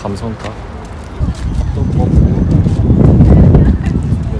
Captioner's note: amazing wind sound